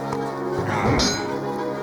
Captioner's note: metal clanging